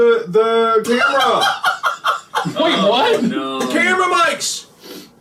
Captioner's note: Wade cackles